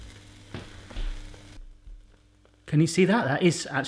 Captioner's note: sizzling